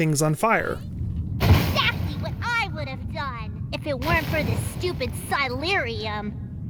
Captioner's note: girl yelling